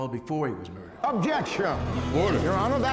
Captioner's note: people murmur loudly